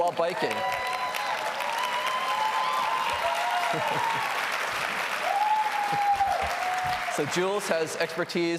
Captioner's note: applause